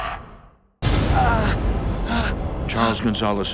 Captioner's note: groaning